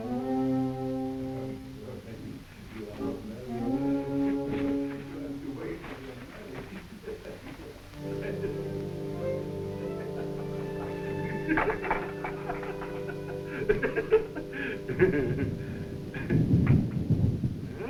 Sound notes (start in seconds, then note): 1.7 background chattering